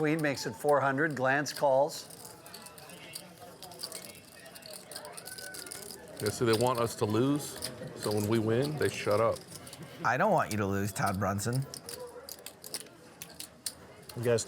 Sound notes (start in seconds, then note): 3.4 poker chips clicking against each other